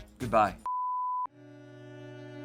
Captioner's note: tone beeps; solemn music